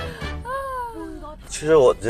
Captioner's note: laughed too hard